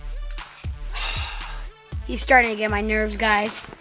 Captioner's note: sighs